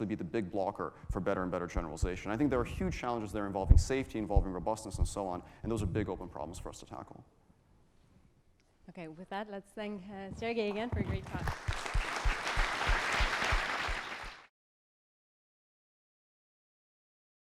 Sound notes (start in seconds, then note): 10.8 applause